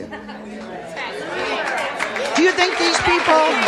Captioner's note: audience applauding